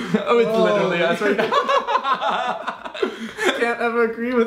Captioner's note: laughs